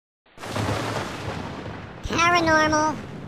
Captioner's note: thunder and rain